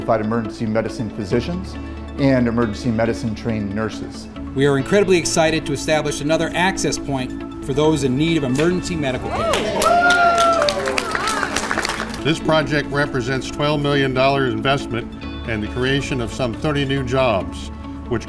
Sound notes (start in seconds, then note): 9.2 audience cheering; 9.3 audience applauding